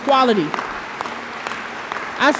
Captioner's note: audience applauds